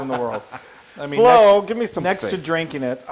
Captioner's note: laugh